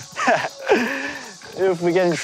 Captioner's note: laughs